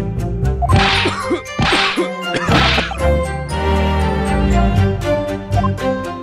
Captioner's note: cough